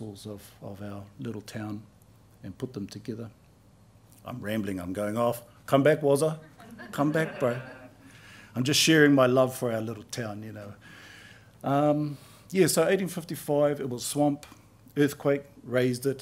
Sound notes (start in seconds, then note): 6.4 laughter